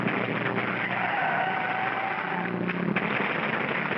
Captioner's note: wood splintering; car engine racing; tires squeal; car engine racing; wood smashing